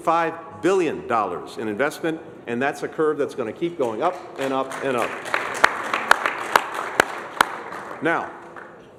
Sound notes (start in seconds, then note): 4.1 applause